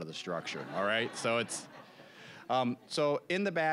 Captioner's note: audience laughing